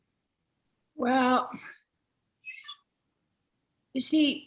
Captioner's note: none